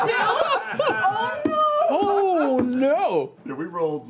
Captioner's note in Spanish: risas